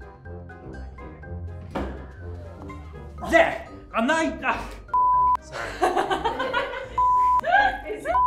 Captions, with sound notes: There! A nein- Ugh, f**k, sorry. (cast and crew laugh)